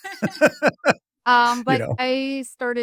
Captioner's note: laughing